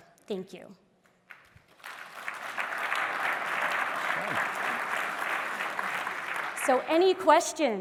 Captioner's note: applause